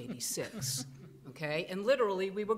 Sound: men chuckling

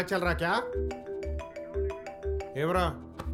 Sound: phone rings

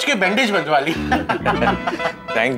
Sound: laughing

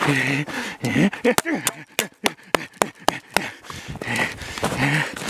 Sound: heavily breathing; hammer clanking; heavily breathing

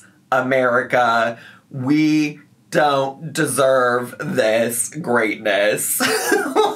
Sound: laughs

